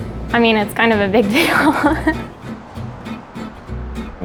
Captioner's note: laughing; upbeat guitar music